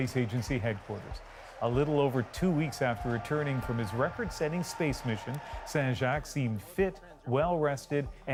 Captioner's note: applause